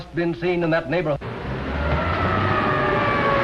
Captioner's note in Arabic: صافرات الإنذار; أبواق السيارات